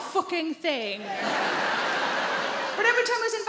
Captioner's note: audience laughing